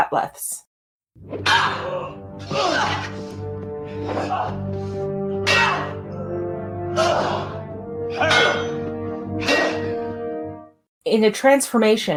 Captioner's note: bat'leth fighting